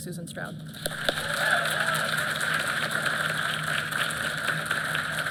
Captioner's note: applause